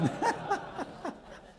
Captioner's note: laughter